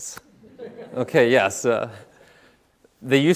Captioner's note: audience laughing